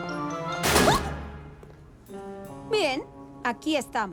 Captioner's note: slam